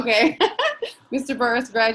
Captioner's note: laughing